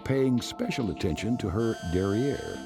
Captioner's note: scanning beep